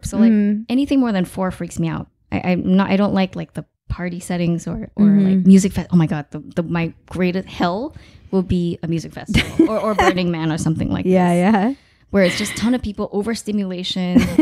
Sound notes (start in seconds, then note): 9.3 laughing